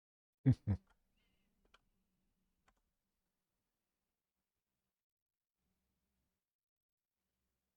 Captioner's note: chuckles